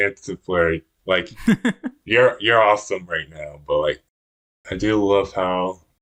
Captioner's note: laughs